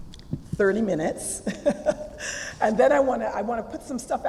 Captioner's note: laugh